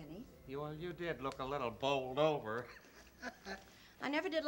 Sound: chuckles

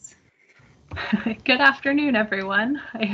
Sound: creek

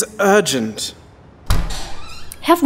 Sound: door opens

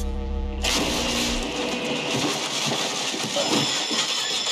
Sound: electricity bursting; phone ringing

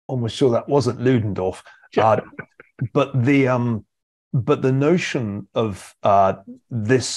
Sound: laugh

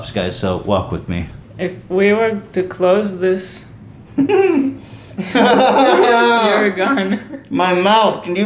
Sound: laughs

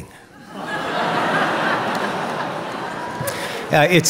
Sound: laughing

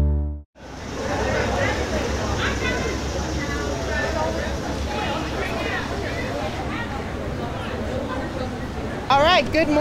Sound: crowd chatter

